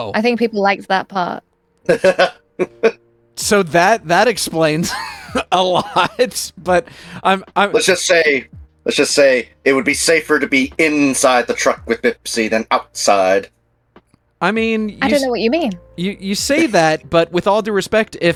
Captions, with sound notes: I think people liked that part. (laughing) So that explains a lot, but I'm- Let's just say it would be safer to be inside the truck with Bipsy than outside. I mean- I don't know what you mean. You say that, but with all due respect,